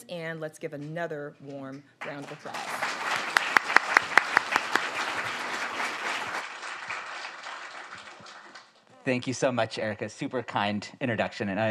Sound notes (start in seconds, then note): 2.0 all applaud